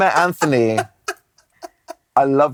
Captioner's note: can't stop laughing